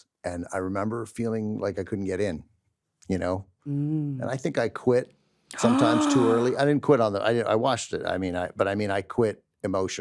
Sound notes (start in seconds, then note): 5.6 gasps